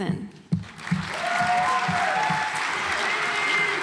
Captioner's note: audience applauds